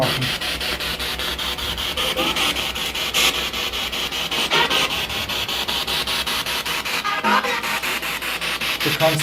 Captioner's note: radio noise from the spirit box